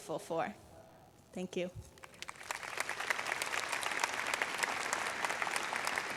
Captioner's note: applause